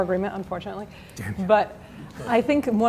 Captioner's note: quietly